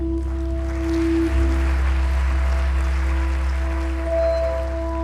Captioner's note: audience applauds